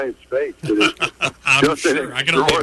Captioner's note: laughing